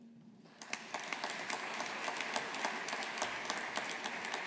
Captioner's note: audience applauding